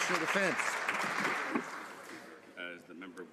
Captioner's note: some Applause